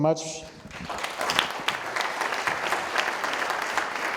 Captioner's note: audience applauding